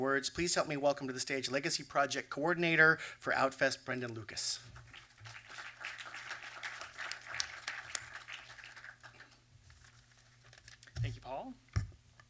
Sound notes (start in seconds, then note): 4.8 applause